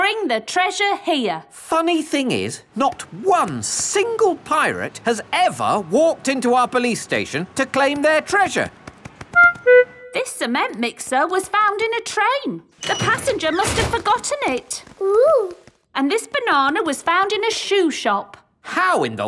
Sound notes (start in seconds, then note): none